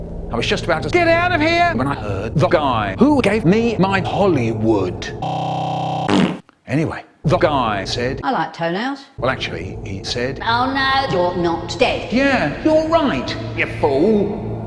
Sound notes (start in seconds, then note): 5.8 fart